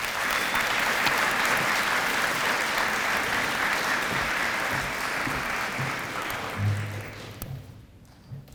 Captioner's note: audience applause